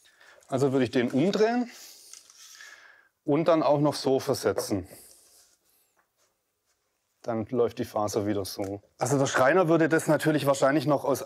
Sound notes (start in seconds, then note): none